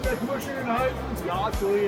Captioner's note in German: Lachen